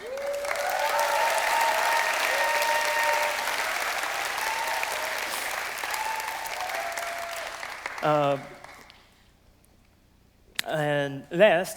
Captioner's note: applause